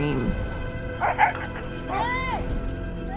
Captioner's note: dogs barking